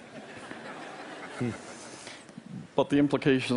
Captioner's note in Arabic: ضحك